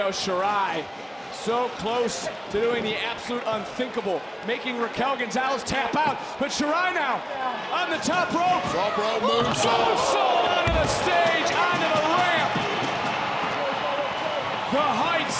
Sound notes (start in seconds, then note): 11.5 audience cheering